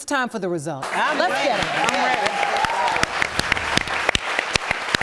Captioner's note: audience applauding